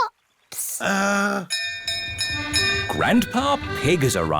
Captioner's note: bell rings